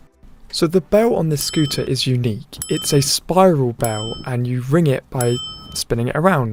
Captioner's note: ring ring